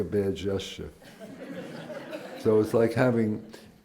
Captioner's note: laughter